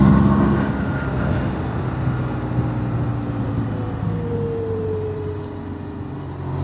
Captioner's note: engine